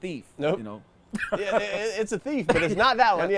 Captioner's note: laughs